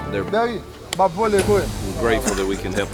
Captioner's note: voiceover